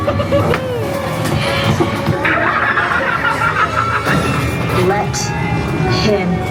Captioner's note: spooky music; scareactor laughs wickedly